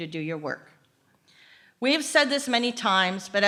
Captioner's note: none